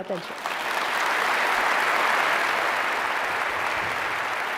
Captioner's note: clapping